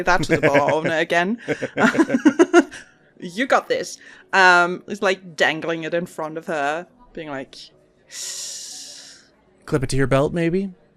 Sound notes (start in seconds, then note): 0.2 laughs; 3.3 laughing